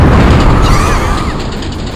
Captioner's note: panicked cries